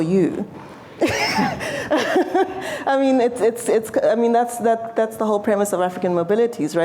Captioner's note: laughter